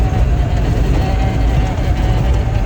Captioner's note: none